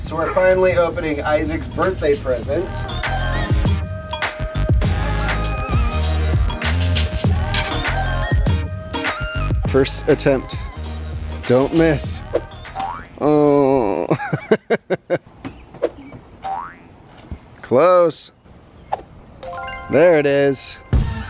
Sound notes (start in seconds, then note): 3.0 techno music; 12.1 springing; 12.1 whooshes; 13.4 laughing; 13.5 groans; 15.8 springing; 15.8 whooshes